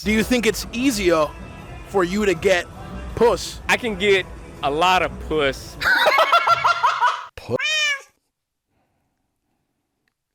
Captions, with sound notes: - Do you think it's easier for you to get puss. - I can get a lot of puss. - (laughs hysterically) P**s.